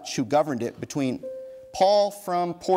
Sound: bell dings

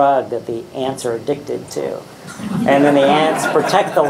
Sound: audience laughing

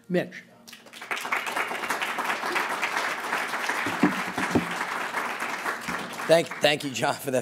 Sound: applause

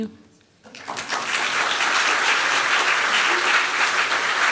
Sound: applause

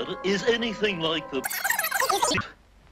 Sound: high-pitched stuttering

